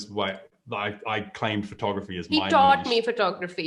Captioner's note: clears throat